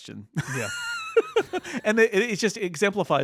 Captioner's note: laughs